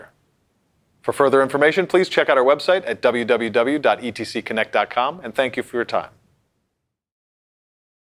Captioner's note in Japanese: 英語